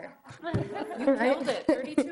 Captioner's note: committee laughs